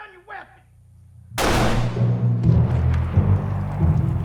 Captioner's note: gun fires